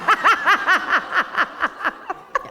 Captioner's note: laughter